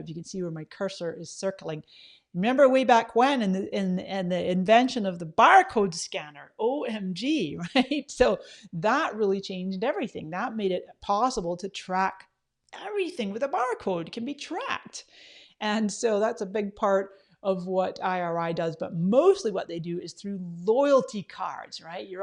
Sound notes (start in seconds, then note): 7.8 laughs